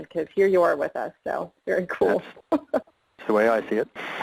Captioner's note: laughs